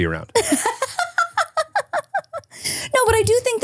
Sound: laughing

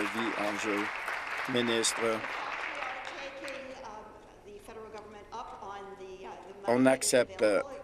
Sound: applause

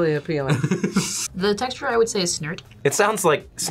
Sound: laughs

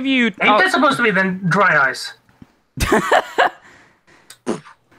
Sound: laughs

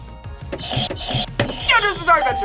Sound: buzzers ring

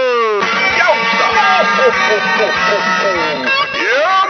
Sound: laughing

